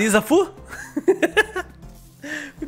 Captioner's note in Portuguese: risos